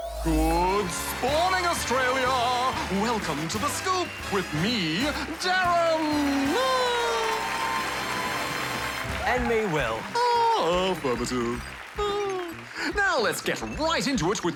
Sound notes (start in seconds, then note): 6.0 cheering, applause; 6.0 laughs; 11.7 chuckles